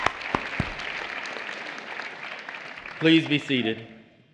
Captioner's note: applause